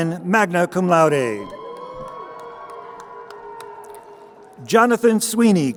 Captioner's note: crowd cheering